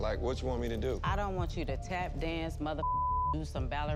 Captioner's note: beep